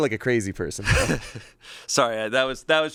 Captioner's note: chuckles